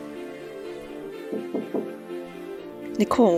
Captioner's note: knocks on door